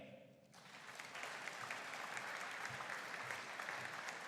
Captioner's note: audience applauding